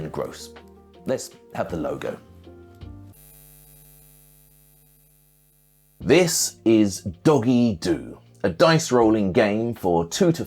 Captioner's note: neon light buzzing